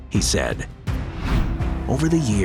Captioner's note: screen whooshing